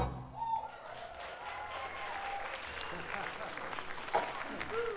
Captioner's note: audience applauding